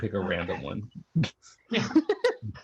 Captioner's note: laughter